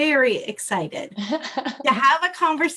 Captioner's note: laughter